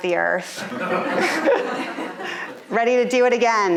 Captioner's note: audience laughing